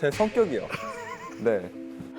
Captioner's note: pfft